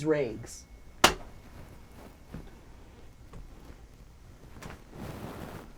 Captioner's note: brush clapping canvas